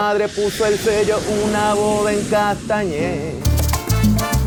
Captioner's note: plane landing; tropical music